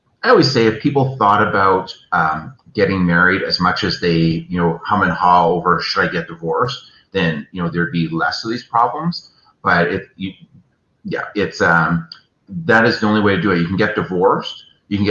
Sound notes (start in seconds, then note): none